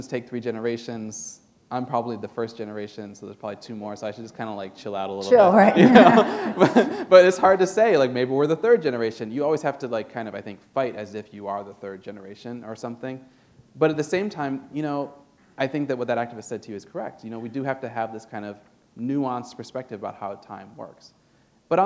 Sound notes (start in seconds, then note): 7.1 laughter